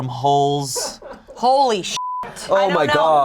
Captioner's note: crew laughing; beep